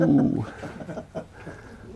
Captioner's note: laughter